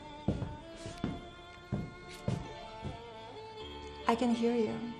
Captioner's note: somber music continues; footsteps pacing